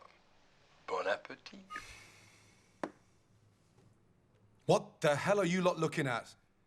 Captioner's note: guy speaking in foreign language